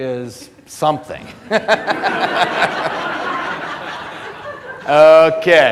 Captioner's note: audience laughter